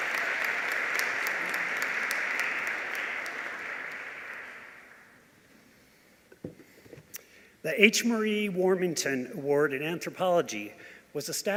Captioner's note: applause